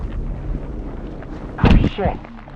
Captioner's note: body falls